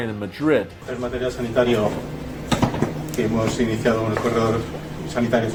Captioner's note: speaking in a foreign language